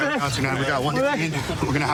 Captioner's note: excited chatter